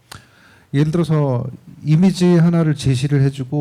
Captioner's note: speaking korean